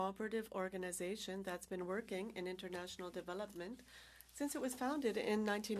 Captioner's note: speaking French